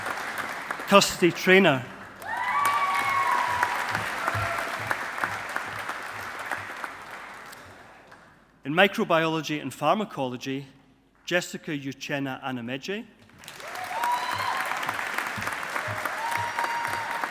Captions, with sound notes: Kirsty Traynor. (AUDIENCE APPLAUDING) In Microbiology and Pharmacology, Jessica Uchenna Anameje. (AUDIENCE APPLAUDING)